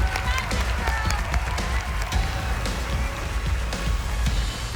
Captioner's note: cheering